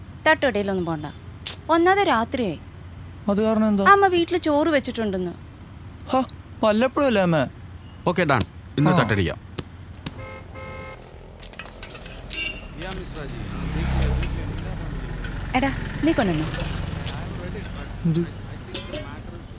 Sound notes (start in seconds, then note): 10.0 car honking